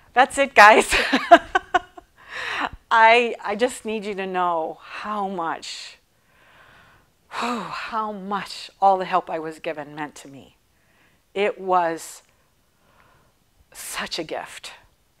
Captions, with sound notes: That's it guys (laughing). I just need you to know how much, (sighing deeply) how much all the help I was given meant to me. It was such a gift.